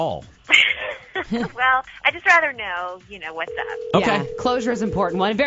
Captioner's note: laughs